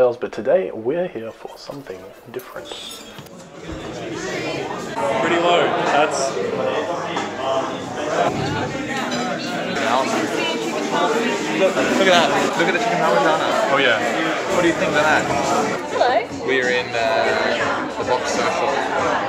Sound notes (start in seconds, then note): 3.7 cafe patrons chattering